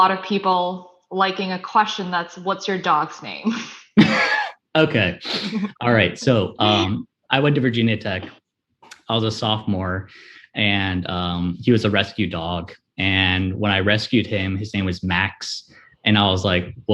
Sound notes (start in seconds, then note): 4.0 laughs